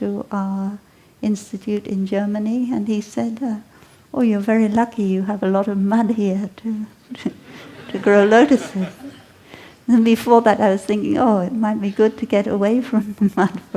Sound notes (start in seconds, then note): 7.2 laughter